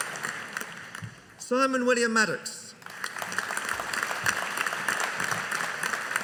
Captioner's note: audience applauding